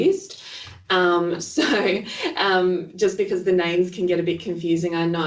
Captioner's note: laughs